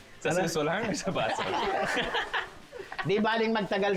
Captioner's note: laughs